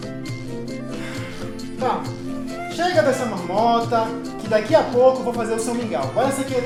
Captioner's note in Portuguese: Suspiro